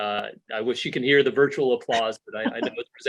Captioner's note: laughter